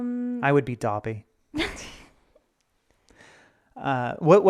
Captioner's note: snickering